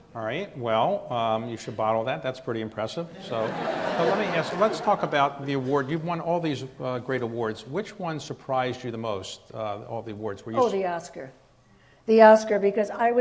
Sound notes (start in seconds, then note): 3.2 audience laughs